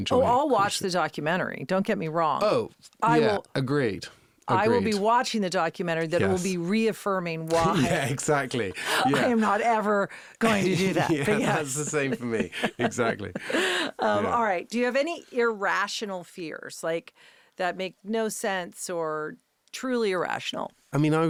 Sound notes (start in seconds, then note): 7.5 laughing; 10.4 interviewer laughing; 10.4 laughing